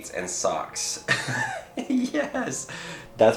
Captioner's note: laughs